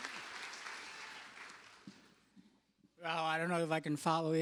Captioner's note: cheers and applause